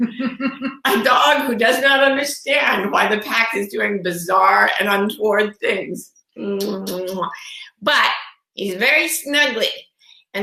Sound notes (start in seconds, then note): 0.0 laughs; 6.5 kisses